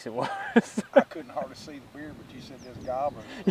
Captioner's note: man laughs